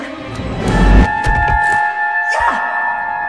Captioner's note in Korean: 바닥에 넘어지는 소리